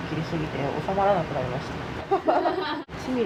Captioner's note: laughs